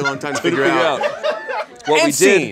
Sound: audience laughs

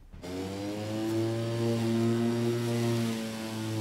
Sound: lawnmower whirring

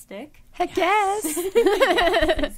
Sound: all laughing

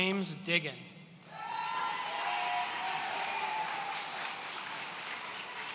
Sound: audience cheering

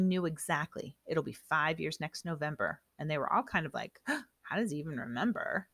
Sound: gasp

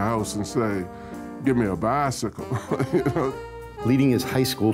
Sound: chuckles

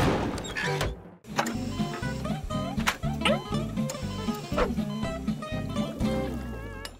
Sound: beeping

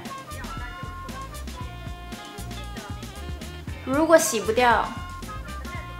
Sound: speaking in foreign language

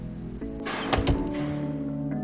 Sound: door Closing

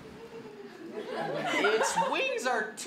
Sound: audience laughter

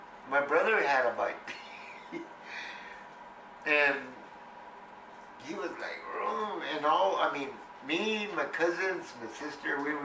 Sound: laughs

